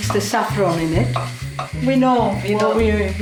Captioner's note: steam whooshing